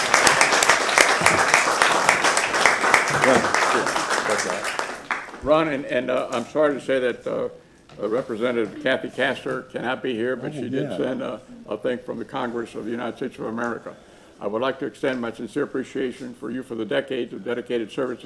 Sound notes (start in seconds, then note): 2.6 applause